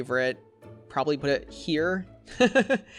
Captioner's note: laughs